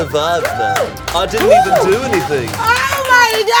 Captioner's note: crew cheering